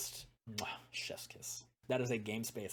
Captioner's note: kiss